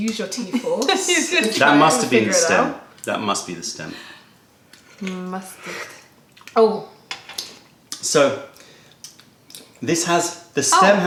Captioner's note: laughter; sips tea